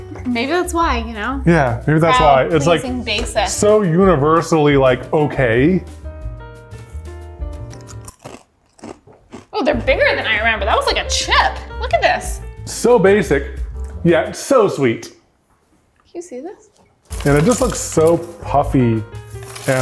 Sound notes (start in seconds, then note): 7.6 crunches